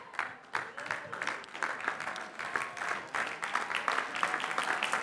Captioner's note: applause